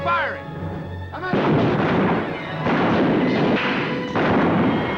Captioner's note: guns fire